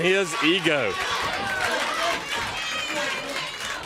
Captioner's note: crowd chatter